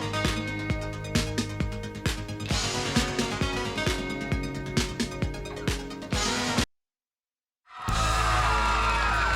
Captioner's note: crowd cheering